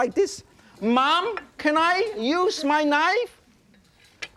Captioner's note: yelling